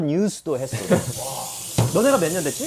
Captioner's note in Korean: 솨아아